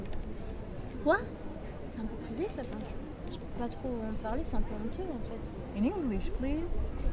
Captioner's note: in French and low